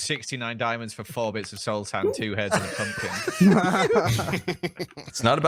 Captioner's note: group laughs